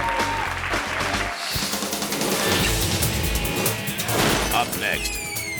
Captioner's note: audience clapping and cheering; screen whooshes; text whooshes